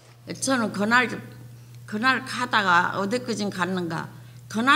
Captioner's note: speaking foreign language